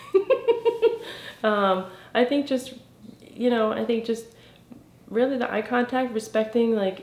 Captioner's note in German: lacht